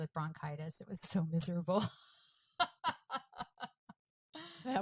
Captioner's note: laughs